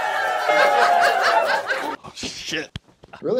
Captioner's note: laugh